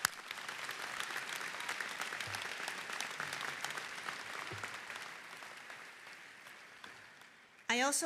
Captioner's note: applause